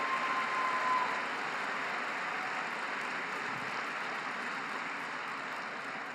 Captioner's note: applause